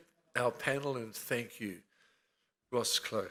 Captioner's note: speaks in foreign language